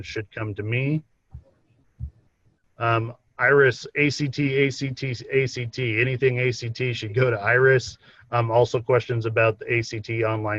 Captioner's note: chuckle